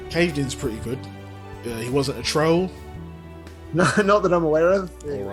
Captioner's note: laughs